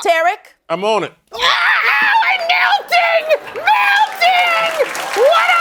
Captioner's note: screaming